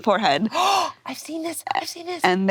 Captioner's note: gasps